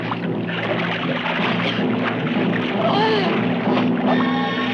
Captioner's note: Syrene gasps and chokes